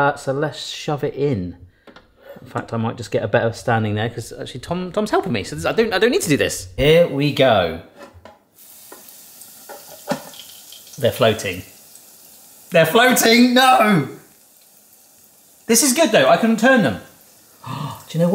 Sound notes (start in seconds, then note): 8.2 oil fizzes